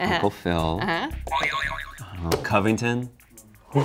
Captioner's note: springing sound